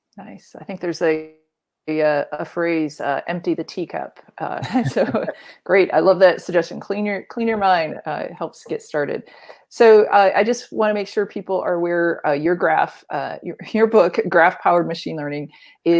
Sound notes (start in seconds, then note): 4.6 laughs